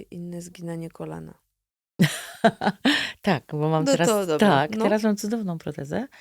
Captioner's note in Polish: śmiech